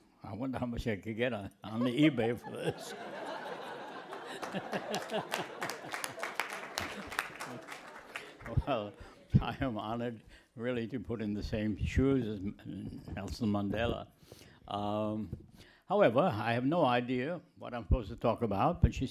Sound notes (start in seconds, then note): 1.7 laughter